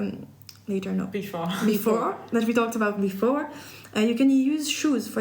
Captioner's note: laughs